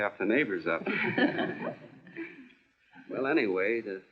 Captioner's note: laughing